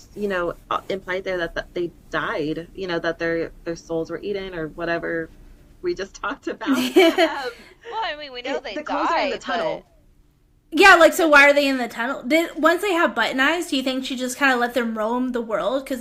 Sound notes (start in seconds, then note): 6.7 laughter